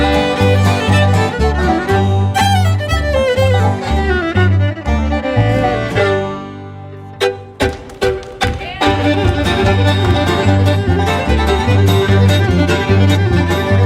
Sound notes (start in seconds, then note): 0.2 fiddle bluegrass continues; 7.2 upbeat fiddle music; 8.1 audience cheer and applaud